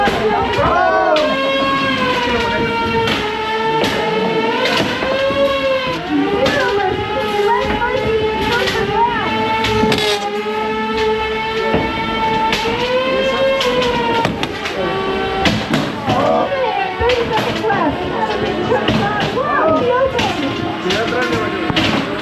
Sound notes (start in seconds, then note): 2.0 robots continue whirring; 2.1 robots continue thudding; 12.0 robots continue whirring; 13.6 robots continue thudding; 21.3 robots continue thudding; 22.0 robots continue whirring